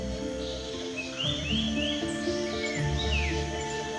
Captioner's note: birds twittering